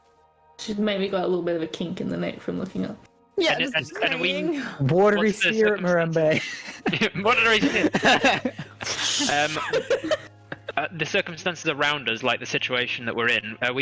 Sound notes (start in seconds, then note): 6.3 all laugh